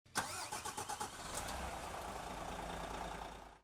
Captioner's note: engine roars